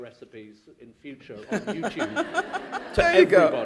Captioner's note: laughter